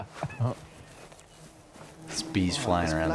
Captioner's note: bee buzzing